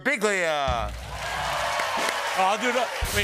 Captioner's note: applause